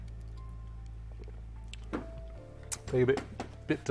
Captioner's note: lips smacking